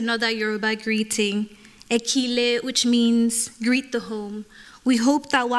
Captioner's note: non-english